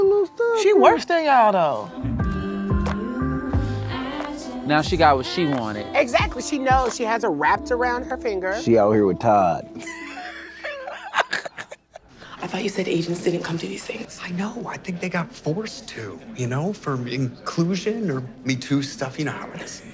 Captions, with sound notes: - She works there. (upbeat music) - Now she got what she wanted. - Exactly. She knows she has her wrapped around her finger. - She out here with Todd. (laughs) - I thought you said agents didn't come to these things. - I know. I think they got forced to, you know, for inclusion or be too stuffy to hire us.